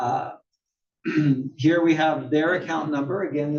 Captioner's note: cough